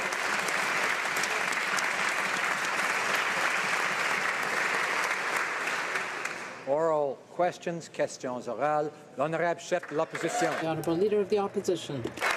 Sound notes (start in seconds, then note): 2.6 applause